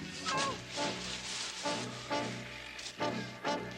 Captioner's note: Carrie groaning; dramatic music